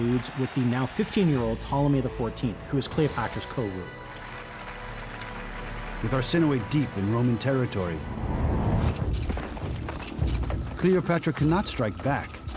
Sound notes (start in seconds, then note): 4.0 applauding